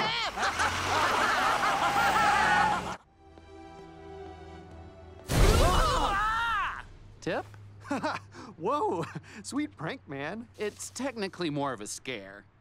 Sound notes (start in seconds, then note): 0.0 criminals laugh; 5.6 man yells out